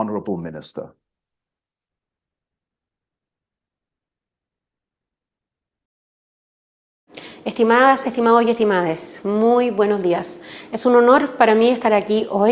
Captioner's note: speaking in Spanish